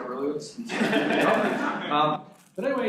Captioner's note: students laugh